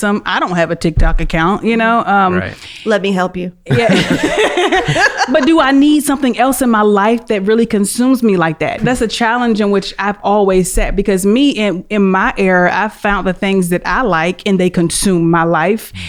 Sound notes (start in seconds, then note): 3.6 laughs